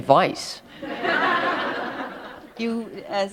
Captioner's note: laughter